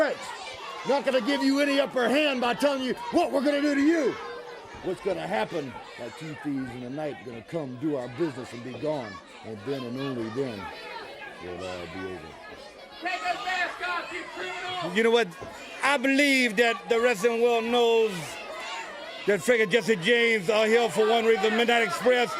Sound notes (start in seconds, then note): 13.1 crowd chatter